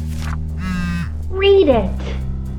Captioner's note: MePhone vibrates